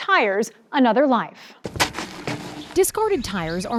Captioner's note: tires thudding